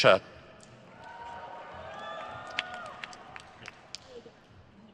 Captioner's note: crowd cheers